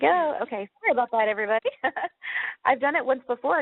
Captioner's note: chuckles